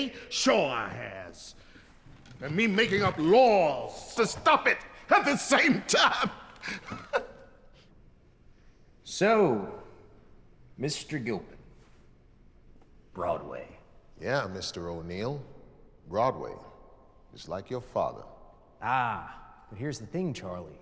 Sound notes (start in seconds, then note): 5.7 laughing